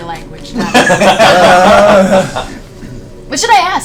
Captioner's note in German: Gelächter